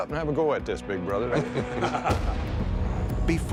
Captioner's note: laughter